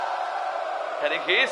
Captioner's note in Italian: urlo